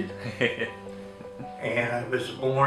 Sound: laughs

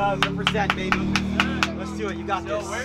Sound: person clapping

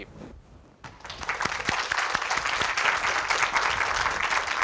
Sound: applause

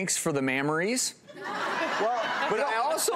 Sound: laughing

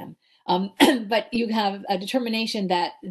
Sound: clears throat

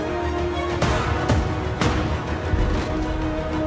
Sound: thudding

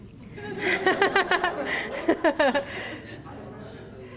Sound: audience laughter

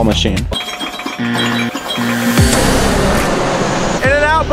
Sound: pinball sounds

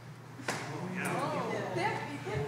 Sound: group approval

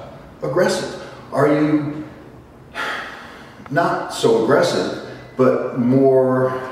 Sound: sigh

